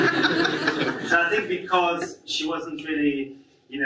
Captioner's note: audience laughs